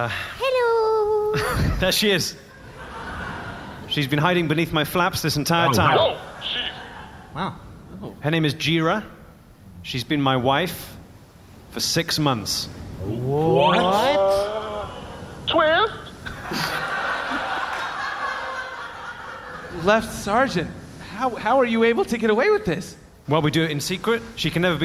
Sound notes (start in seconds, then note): 16.2 audience gasps; 19.8 audience laughs